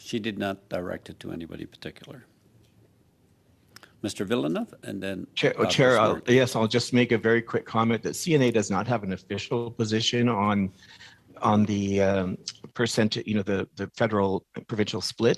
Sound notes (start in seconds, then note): 3.6 speaking French